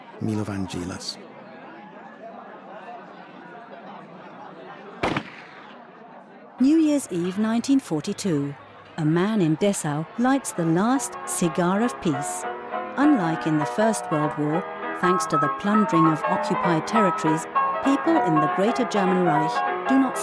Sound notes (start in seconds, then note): 5.0 gun firing; 13.0 ragtime piano music